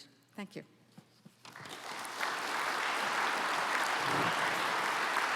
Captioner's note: applause